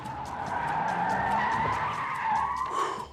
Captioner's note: tires squealing